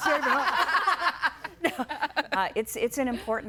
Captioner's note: guests laughing